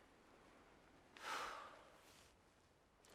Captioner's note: deep exhale